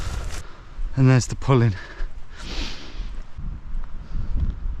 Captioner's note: sniffs